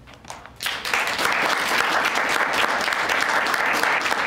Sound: applause

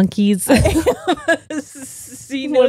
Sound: both laughing

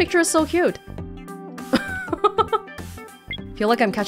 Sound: chuckles

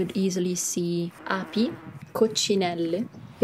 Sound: speaking Italian

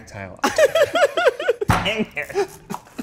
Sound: laughs

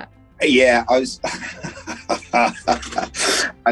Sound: laughs

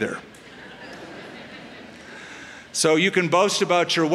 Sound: laughter

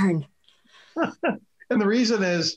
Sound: laughs

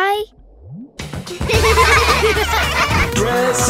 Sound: giggling

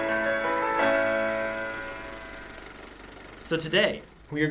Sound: ragtime music; movie reel clicking

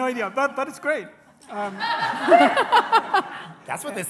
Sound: laughing

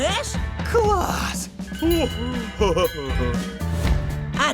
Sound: chuckles

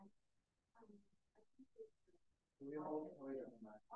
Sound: audience member speaking faintly

